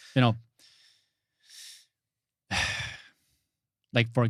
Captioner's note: sighs